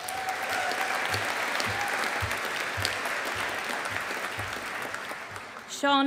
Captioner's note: audience applauding